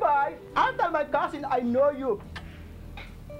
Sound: speaking foreign language

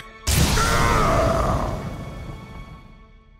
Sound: grunting

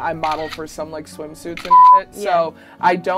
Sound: beep

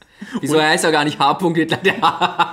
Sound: laughs

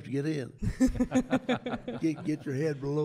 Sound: chuckles

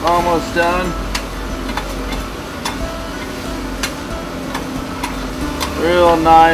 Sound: cracking sounds

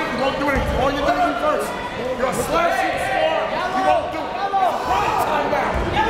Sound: players and coaches yelling

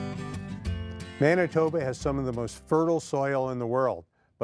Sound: voiceover

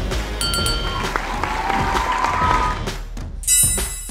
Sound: applause

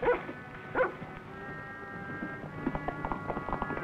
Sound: Rebel barks

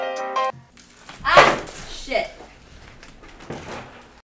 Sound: music stops. sound of poster board falling

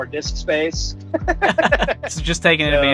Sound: laughs

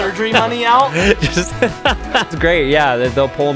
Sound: laughter

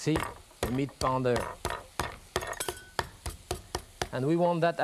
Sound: pounding

